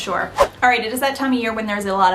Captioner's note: frame whooshes